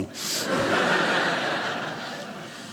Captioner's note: audience laughing